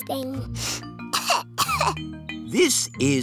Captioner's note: sniffs and coughs